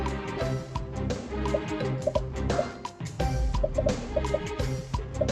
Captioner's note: dramatic music; popping